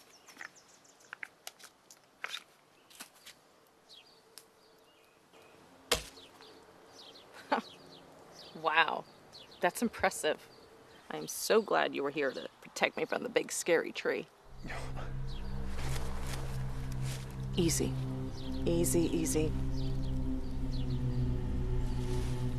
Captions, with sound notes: [forest din] [chuckles] Wow. That's impressive. I'm so glad you were here to protect me from the big, scary tree. [rustling] Easy. Easy, easy. [tense music]